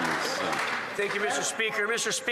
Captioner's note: some Applause